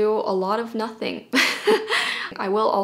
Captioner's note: laughing